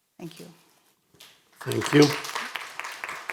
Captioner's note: audience applauding